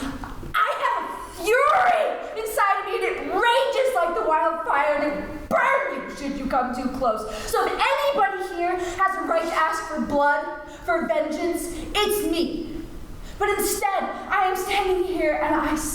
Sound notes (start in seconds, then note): none